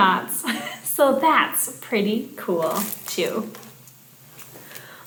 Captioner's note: chuckling